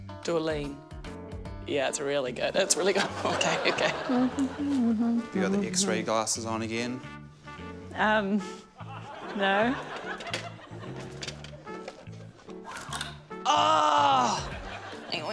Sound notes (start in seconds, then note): 2.8 chuckles; 4.1 hums